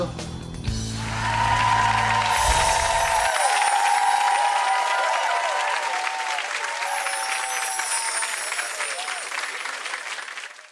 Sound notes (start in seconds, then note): 0.0 upbeat music; 0.8 audience cheering and clapping